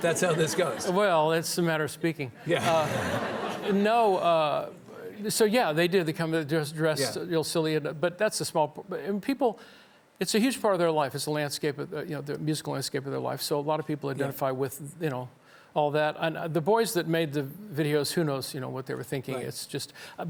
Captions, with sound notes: That's how this goes. - Well, it's a matter of speaking. (audience laughing) So, yeah, they did, they come dressed real silly, but that's a small, people, it's a huge part of their life. It's the landscape of the, you know, the musical landscape of their life, so a lot of people identify with, you know, all that. And the boys that made the videos, who knows, you know, what they were thinking, it's just.